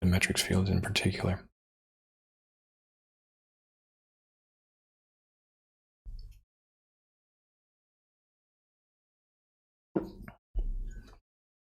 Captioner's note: silence